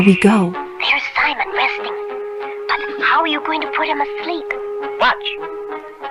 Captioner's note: whispering